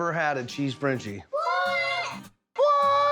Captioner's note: kids saying together